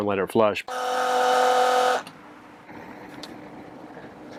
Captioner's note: pump roaring